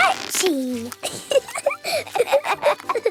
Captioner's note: both laughing